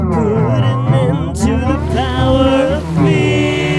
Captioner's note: water running